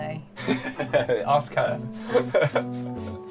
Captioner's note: laughs